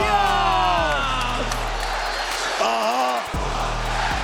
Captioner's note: crowd chants "Whoop that Trick"